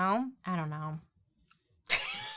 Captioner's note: laughs